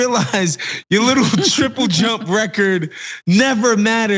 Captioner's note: laugh